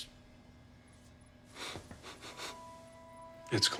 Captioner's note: sniffing